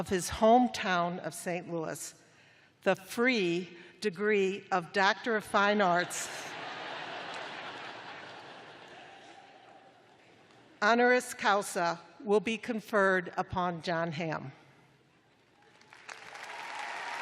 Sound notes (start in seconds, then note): 6.0 laughter; 15.5 applause